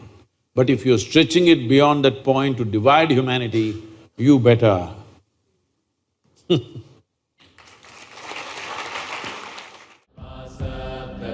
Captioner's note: laughs; applause